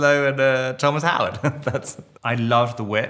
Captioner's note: Robert laughing